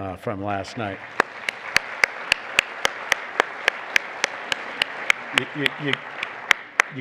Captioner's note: applause